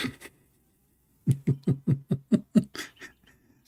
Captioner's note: laughter